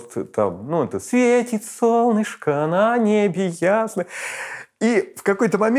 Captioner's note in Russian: напевает